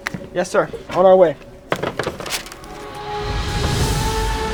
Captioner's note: phone clatters; inspirational music